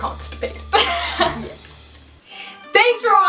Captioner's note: laughing